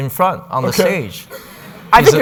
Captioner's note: audience laughing